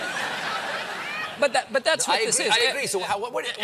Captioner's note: laughter